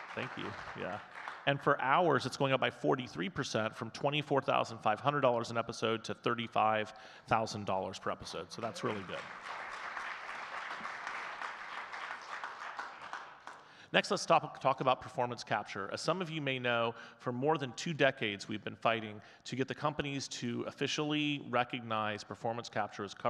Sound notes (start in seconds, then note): 8.6 audience clapping